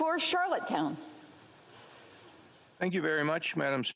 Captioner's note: speaking French